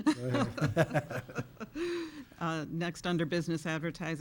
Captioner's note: chuckling